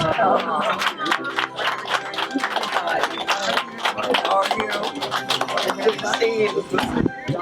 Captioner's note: audience applause